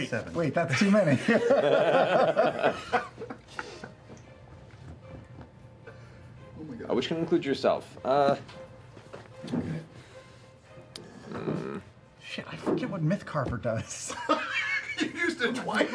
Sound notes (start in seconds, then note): 1.0 laughter